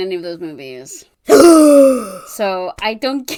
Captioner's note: dramatic gasp; laughing